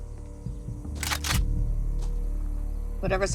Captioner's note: gun cocking